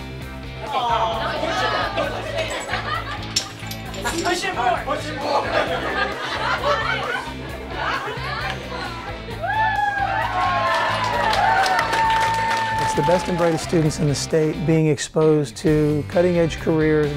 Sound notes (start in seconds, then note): 5.2 laughter; 9.3 cheering and applause